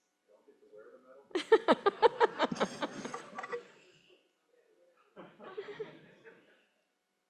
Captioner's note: laughter